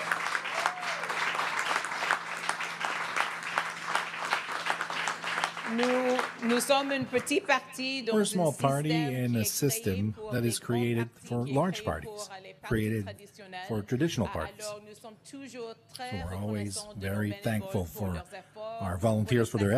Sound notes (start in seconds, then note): 3.1 cheering and Applause; 10.2 speaking French